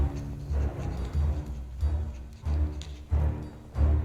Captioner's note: Unterdrückte Laute